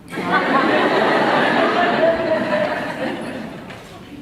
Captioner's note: laughs